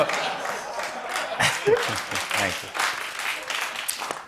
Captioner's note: applause